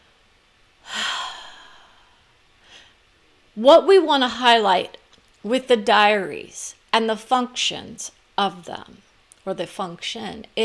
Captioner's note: sigh